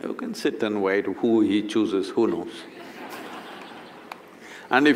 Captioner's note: laughter